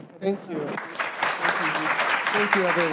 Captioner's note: applause